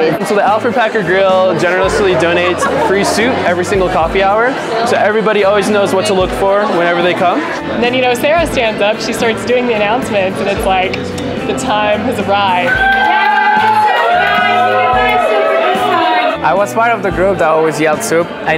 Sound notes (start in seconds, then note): 12.6 cheers